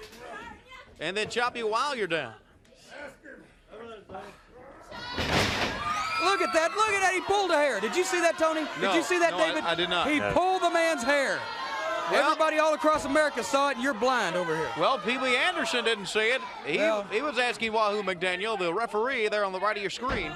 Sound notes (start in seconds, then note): 4.1 crowd cheering